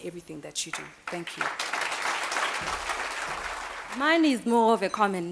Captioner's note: applause